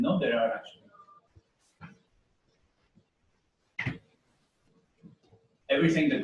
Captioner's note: pause